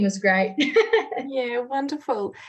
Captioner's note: laughs